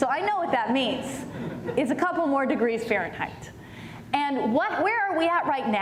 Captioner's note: laughter